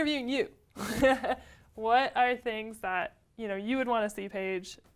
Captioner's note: laugh